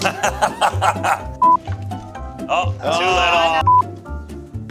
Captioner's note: ball bounces, laughs; beep sound